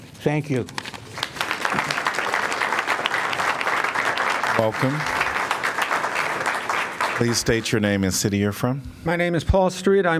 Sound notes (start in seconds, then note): 0.8 applause